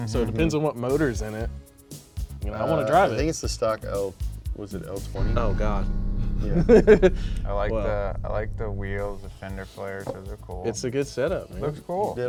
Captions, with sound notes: so it depends on what motors in it, and I wanna drive it. I think it's the stock of... Was it 020? - Oh God. (laughing) - I like the wheels, the fender flares, those are cool. - It's a good setup, man. - Looks cool.